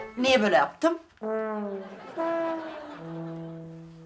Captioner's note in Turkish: Gülme efekti